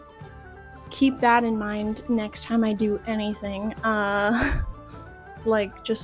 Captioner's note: laughter